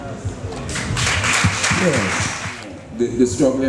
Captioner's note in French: applaudissements